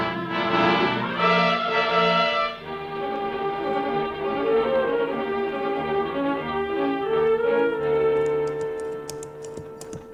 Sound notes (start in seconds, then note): 0.6 dramatic music; 3.8 tapping